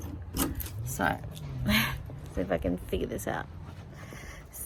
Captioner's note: scoffs